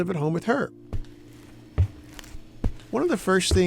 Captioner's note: footsteps thumping